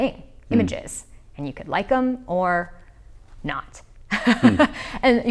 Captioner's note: laughs